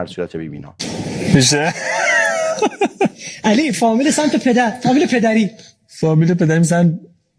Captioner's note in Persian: خنده